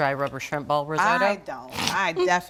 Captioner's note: Bridget chuckles